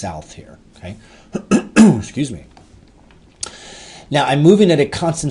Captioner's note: throat clearing